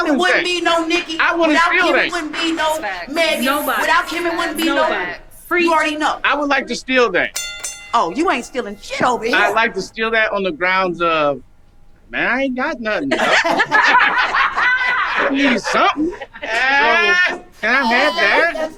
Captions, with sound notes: - Without Kim there wouldn't be no Nicki. Without Kim there wouldn't be no Meg. Without Kim there wouldn't be no, you already know. - I would like to steal that. (bell dinging) - Oh you ain't stealing shit over here! - I'd like to steal that on the grounds of, man, I ain't got nothing. (group laughing) I need something! So, can I have that?